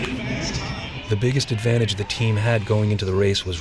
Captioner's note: voiceover